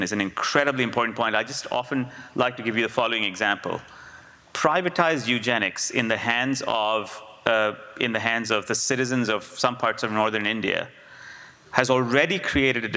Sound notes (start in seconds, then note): none